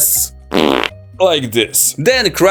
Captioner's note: fart